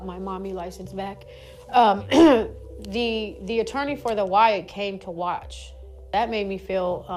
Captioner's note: clears throat